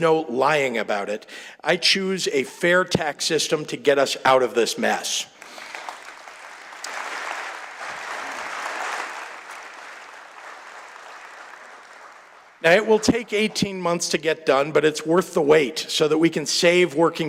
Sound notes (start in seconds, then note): 7.5 applause